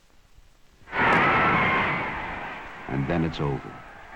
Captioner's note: crowd cheering